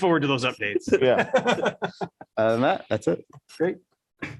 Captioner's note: laughter